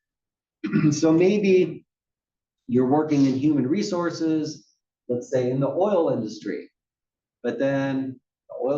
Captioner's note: cough